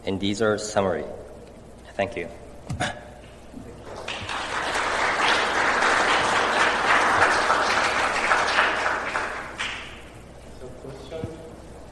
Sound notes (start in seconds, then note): 3.8 applause